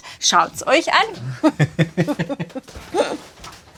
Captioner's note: laughs